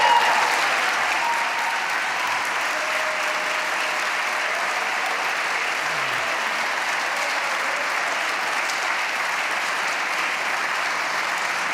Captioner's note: applause